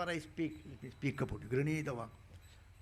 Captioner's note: speaking in Sanskrit